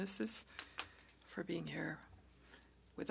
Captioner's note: speaking French